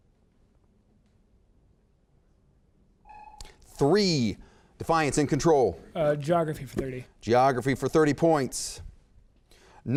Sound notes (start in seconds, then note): 3.1 timer sounds